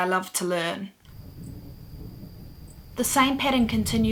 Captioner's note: sounds of crickets and wind blowing